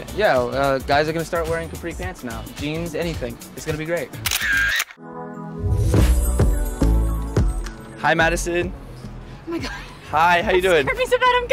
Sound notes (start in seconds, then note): 4.2 camera shutter clicking; 5.1 jazzy music